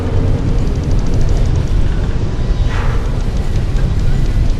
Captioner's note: engines rumbling